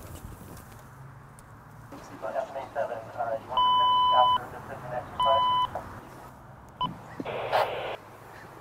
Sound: radio beeping, indiscernable radio voices

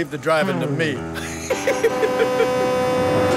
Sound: laughing

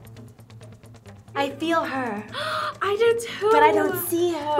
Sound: gasps

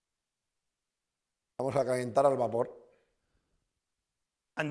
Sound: speaking spanish

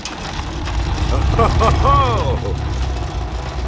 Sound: laughs

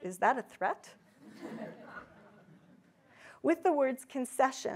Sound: audience laughs

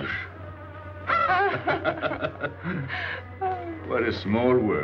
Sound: laughing

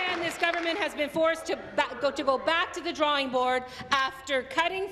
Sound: applause

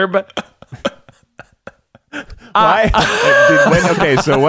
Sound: laughing

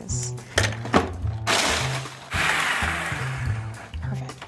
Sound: food processor running

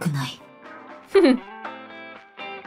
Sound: chuckles

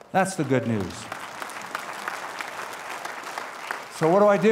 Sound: applause

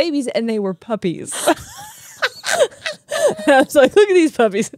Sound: laugh

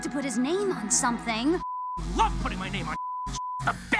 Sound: beep

